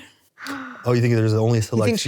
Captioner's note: gasps